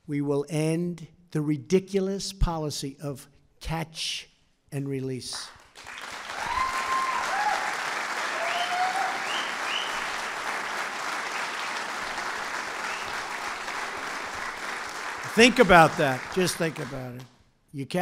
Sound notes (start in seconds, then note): 7.0 applause